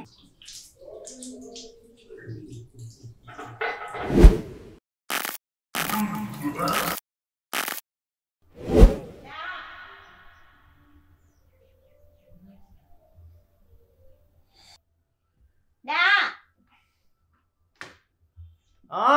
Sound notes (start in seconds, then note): 9.1 mom calling from downstairs